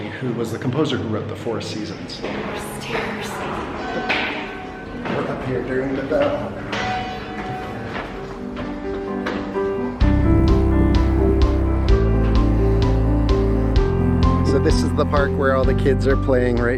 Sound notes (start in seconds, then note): 4.3 bell chiming loudly; 7.3 rhythmic piano music